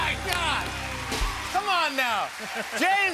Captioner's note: cheers and applause